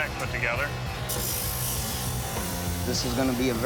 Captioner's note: machinery whirring